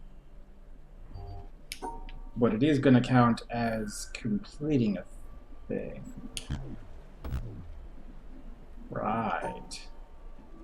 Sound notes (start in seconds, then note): none